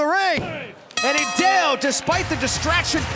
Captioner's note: bell ringing